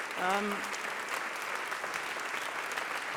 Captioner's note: applause